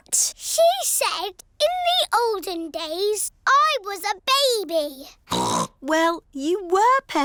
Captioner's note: snorts